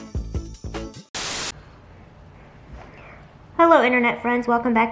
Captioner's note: cheerful music; television static